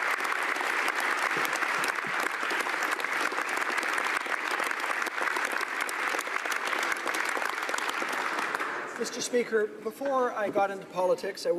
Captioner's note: applause